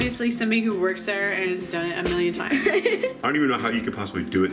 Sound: laughs

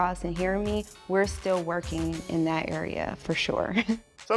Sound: chuckles

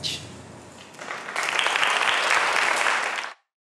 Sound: applause

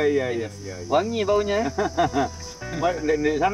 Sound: laugh

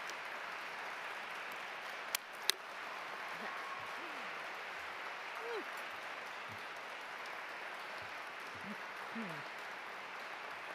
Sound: cheers and applause

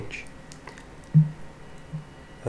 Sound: bonk

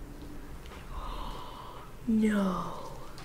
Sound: gasps

